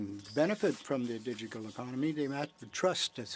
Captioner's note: speaking French